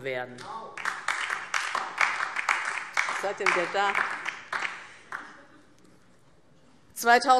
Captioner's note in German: Beifall DIE LINKE